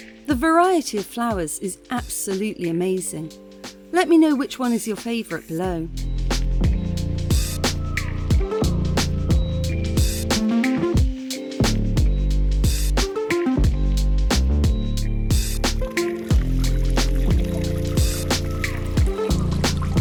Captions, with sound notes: The variety of flowers is absolutely amazing. Let me know which one is your favorite below. [chill music] [fountain] [chill music]